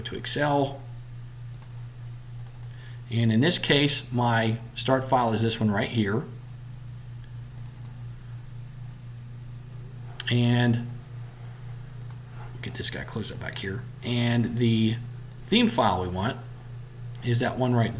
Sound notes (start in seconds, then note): 0.0 click; 0.0 clicking; 7.5 click